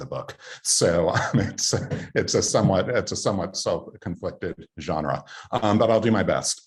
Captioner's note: chuckling